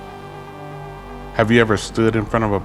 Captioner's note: errie sounds